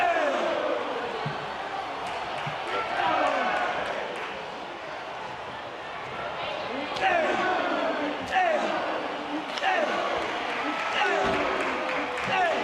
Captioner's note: audience cheering